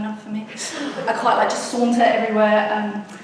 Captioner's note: audience laughs